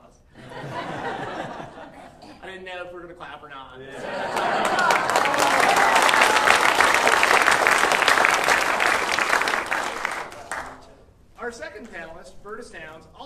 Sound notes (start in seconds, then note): 0.4 audience laughing; 4.0 audience laughing and clapping